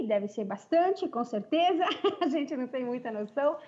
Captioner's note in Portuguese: risos